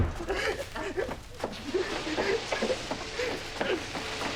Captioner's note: crying